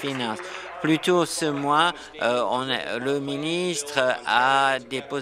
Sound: applause

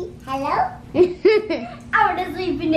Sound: laughs

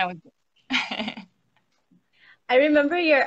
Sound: laughs

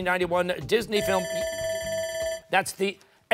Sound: timer

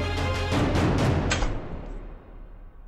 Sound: door closes

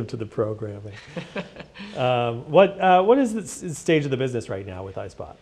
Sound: laugh

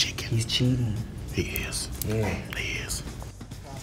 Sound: whispers

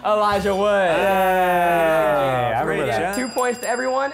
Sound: cheering

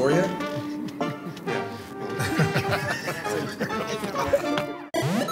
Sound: laughter

